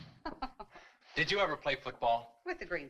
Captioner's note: woman chuckles